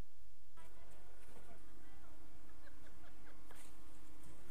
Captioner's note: crowd murmuring